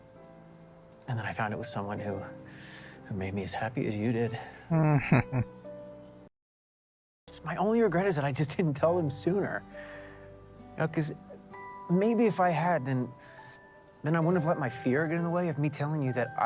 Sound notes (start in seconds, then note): 4.7 chuckling